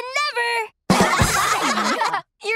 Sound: laughing

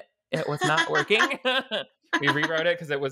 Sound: both laughing

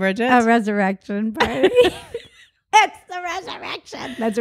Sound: both laugh

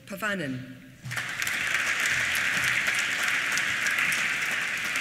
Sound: applause

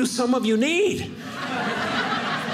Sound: audience laughing

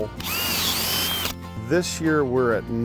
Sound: drilling

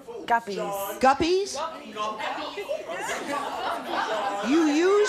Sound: audience laughing

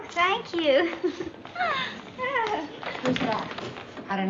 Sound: giggling

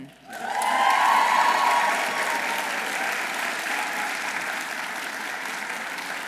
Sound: audience applauding; audience cheering

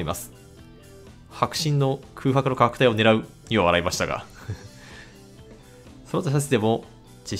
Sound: laughs

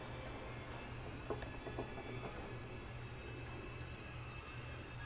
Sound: faint knocking

